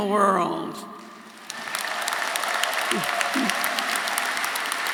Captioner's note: audience applauding